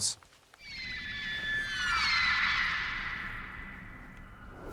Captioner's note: fawkes crying